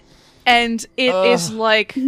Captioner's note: whispering